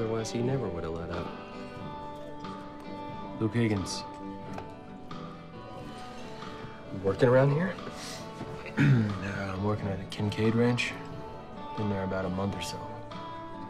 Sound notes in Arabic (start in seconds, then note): 8.6 يصفي حلقه